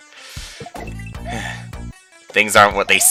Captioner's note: breathing